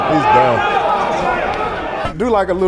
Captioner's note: audience chatterin